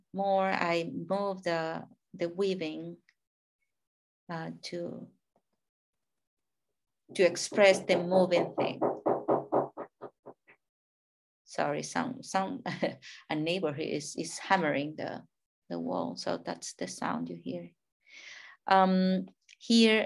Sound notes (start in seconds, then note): 7.4 neighbor hammering